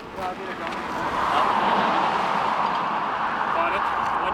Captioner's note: car whooshing; speaking in foreign language